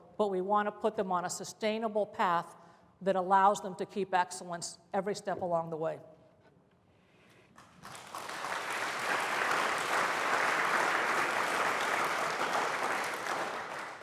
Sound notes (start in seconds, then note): 7.5 applause